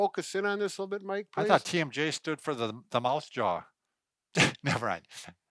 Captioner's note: laughs